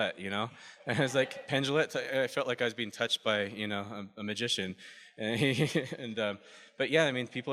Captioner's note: laughs